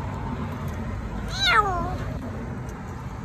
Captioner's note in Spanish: Gato maullando asustado